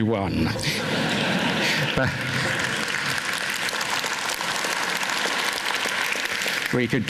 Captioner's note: applause